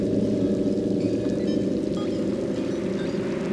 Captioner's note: waves crashing